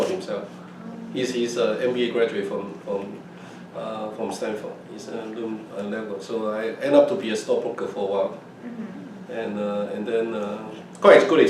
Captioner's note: laughs